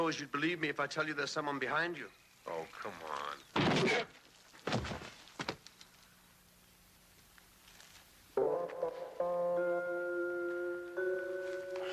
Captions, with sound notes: - I don't suppose you'd believe me if I tell you there's someone behind you. - Oh, come on. (sword thunking) (upbeat music)